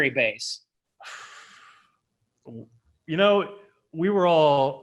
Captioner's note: sighs